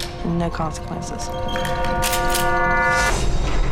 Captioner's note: gun cocks